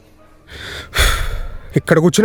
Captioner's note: exhales deeply